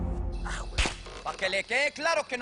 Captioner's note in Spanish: Quejidos